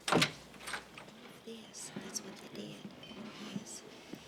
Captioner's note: door clicking